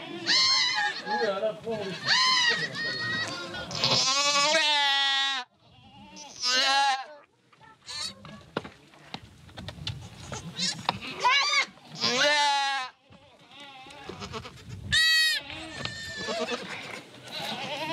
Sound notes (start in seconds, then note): 4.6 goat cries; 12.5 goat cries; 15.1 squealing